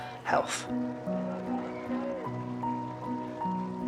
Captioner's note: crowd cheering; gentle music